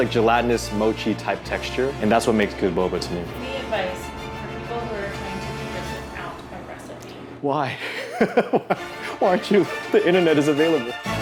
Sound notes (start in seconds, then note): 7.6 laughs